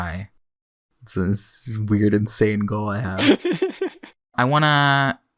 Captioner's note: laughs